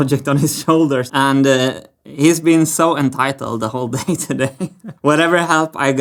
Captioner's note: chuckles